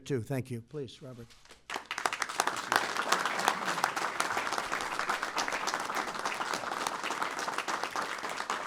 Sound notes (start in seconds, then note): 1.6 applause